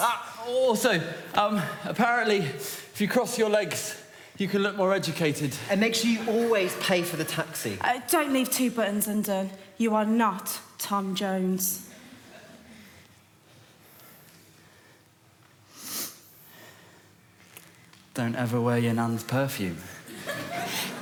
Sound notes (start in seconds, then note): 15.7 sniffs